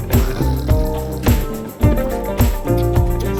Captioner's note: upbeat music; growls; upbeat music